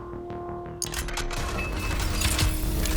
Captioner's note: suspense music; mechanical clicking